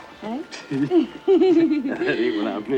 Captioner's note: both laugh